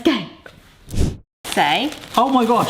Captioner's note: screen wipe whooshes